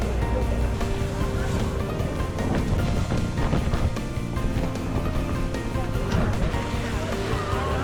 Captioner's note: laughs